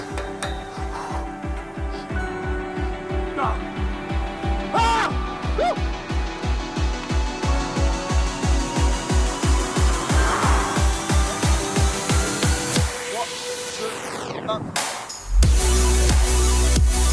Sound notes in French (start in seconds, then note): 3.1 il crie